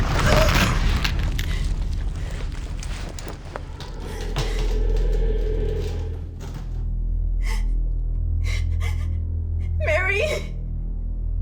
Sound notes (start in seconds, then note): 0.3 Mary gasping; 8.4 Rose whimpering